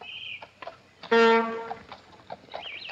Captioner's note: car horn